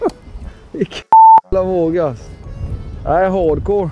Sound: beep

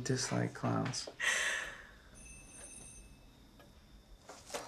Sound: bell rings

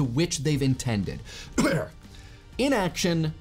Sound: coughing

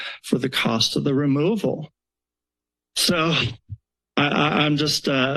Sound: chuckles

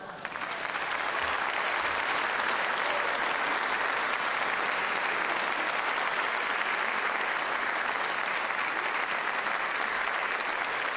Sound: applause

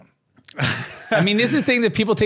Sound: laughs

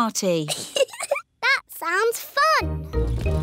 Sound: giggles

